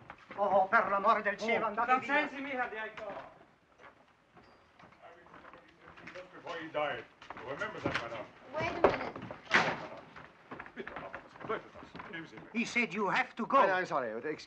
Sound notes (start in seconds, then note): 0.3 speaking in foreign language; 8.7 door opening and closing